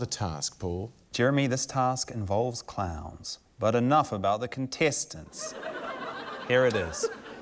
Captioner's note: laughter